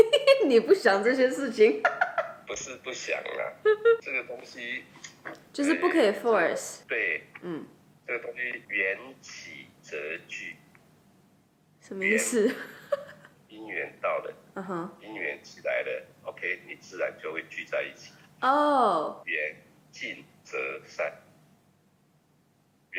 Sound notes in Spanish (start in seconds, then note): 1.8 risas; 8.7 en chino; 18.8 en chino